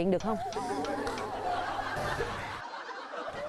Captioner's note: laughing